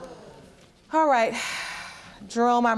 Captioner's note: sighing